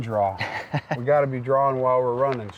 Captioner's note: laughing